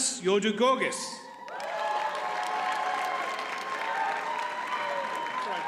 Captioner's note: audience cheers and applauds